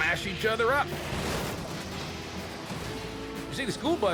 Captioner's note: buses crashing